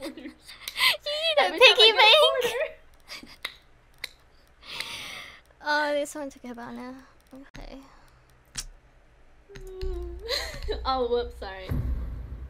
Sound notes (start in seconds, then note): 0.0 laughing; 3.0 laughing; 7.7 clicks mouth